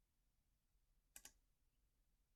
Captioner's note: click